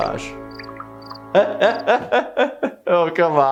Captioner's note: laughing